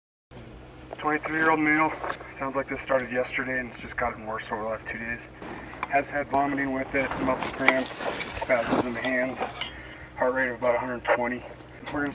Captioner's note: radio traffic, paramedic talking to IC